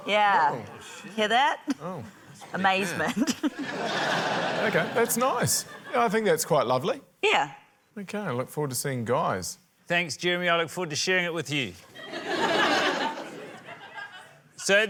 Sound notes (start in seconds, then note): 3.0 laughter; 3.1 chuckles; 11.9 laughter